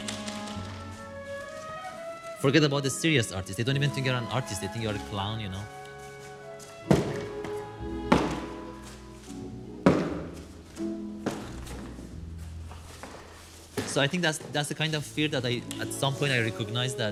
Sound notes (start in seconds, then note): 0.2 bright music; 6.8 cardboard thuds; 6.9 bright music